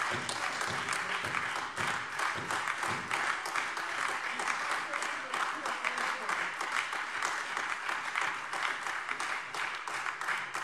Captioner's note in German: Beifall Freie Demokraten, AfD und vereinzelt SPD